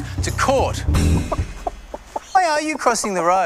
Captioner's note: clucking